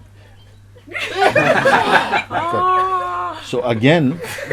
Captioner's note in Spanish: Risas